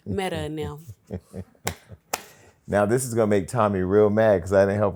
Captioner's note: laughs